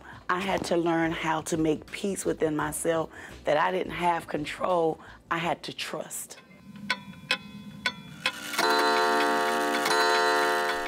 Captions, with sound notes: I had to learn how to make peace within myself that I didn't have control. I had to trust. [clock ticking] [clock sounding]